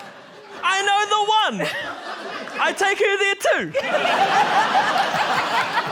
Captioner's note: laughter